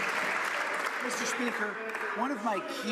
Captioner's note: some Applause